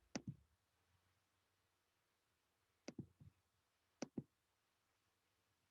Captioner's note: silence